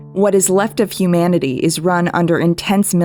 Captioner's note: none